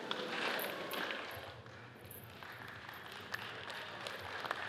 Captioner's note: audience applauds